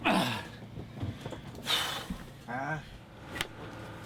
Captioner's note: gasping